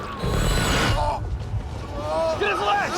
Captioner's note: Stanford groaning